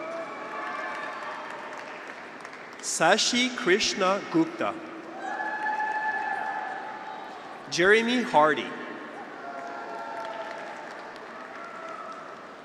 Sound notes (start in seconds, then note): 0.0 graduates cheer; 5.0 graduates cheer; 9.1 graduates cheer